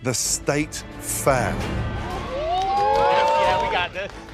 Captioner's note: cheering